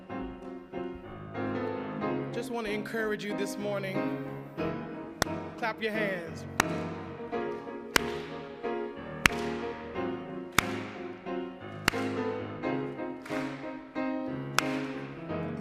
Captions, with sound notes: - Just wanna encourage you this morning. (claps) Clap your hands. (hands clap)